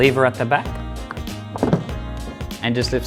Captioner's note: toilet clicks